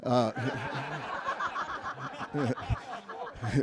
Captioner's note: everyone laughs